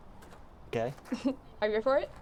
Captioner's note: chuckles